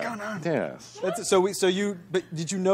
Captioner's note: stammering